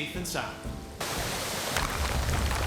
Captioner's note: water Rushing; rocks Clatter